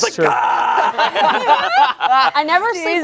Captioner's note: everyone laughing